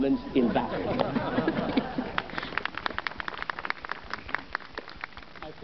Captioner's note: audience laughs and applauds